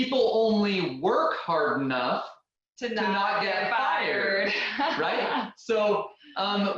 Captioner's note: laughing